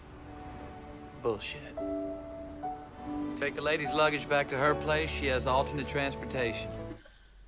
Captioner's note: birdsong